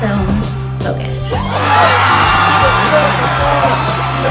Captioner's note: crowd cheering